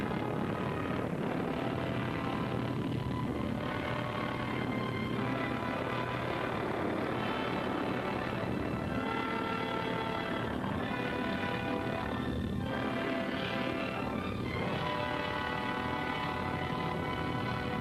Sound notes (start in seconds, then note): 0.1 fire roaring; 0.1 island rumbling; 6.7 waves crashing; 9.4 dramatic music